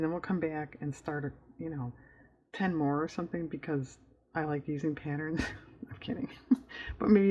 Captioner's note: laughs